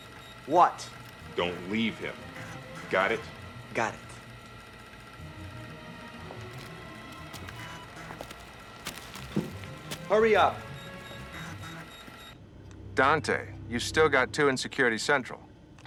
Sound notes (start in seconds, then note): 5.1 dramatic music; 11.4 beeping